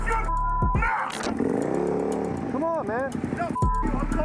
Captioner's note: engine accelerating